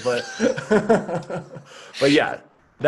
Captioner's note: laughter